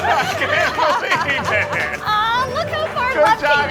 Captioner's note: all laughing